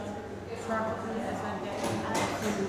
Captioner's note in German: Stimmengewirr im Hintergrund